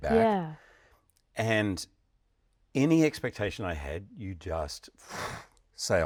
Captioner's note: breath whooshes